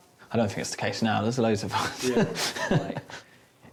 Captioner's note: chuckles